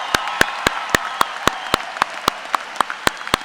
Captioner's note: applause